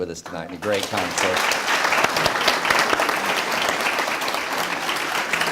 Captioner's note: speech drowned out by applause